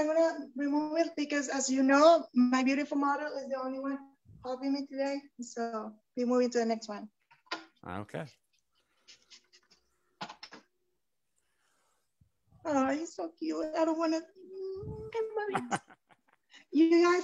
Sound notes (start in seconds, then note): 15.4 laughs